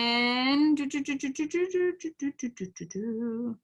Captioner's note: humming